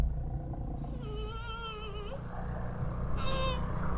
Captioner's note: piangere